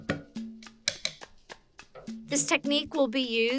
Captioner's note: spoon taps